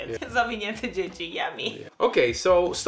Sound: speaks Polish

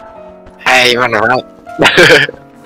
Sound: mocking

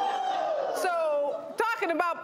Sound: whooping and hollering

